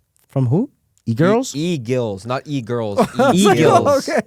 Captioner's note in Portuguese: risos